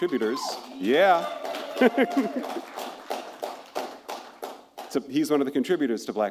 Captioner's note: laughs